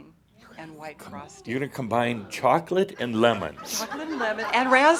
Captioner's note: laughter